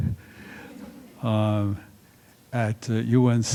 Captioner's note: laughter